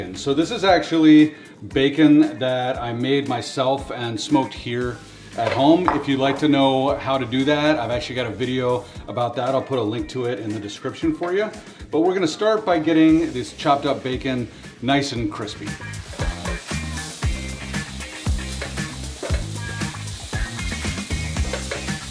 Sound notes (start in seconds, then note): 16.3 upbeat music; 17.9 bacon sizzling